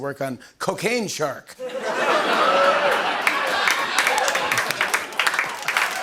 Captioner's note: laughter and applause